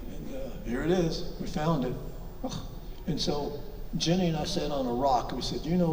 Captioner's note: guttural exclamation